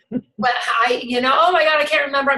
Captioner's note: team member laughs